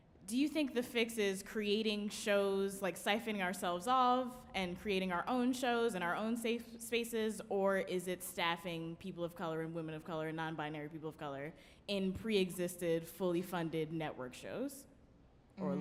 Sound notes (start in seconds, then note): none